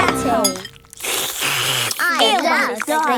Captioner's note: slurping